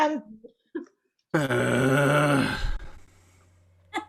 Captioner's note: Malvolio fusses